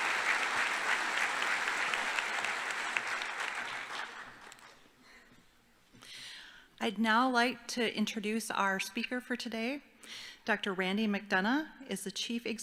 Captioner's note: applause